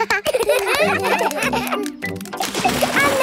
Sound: children laugh

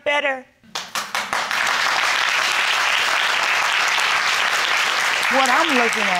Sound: crowd clapping

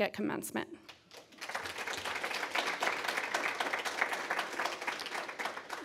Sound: applause

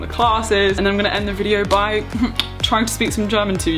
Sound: chuckling

